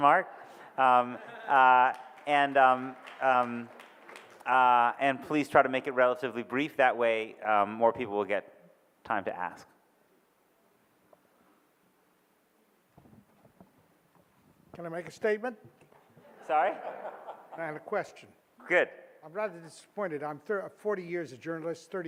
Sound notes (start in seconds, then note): 0.9 audience laughs and claps; 16.2 audience laughs